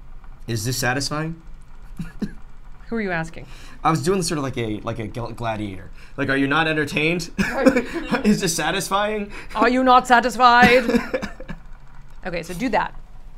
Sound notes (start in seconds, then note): 7.4 all laugh; 10.4 laughs